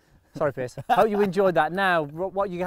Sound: laughing

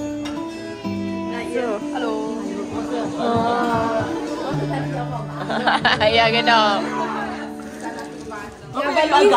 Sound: laugh; laugh; speaking German

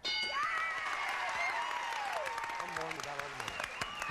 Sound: audience applauding

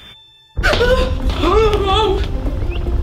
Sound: both gasp

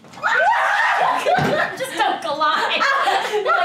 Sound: screams

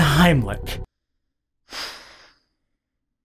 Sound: sigh

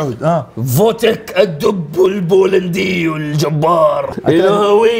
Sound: in a deep voice

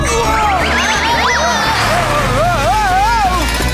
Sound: slipping

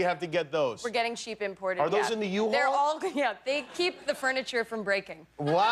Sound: laughter

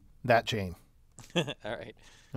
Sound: laugh

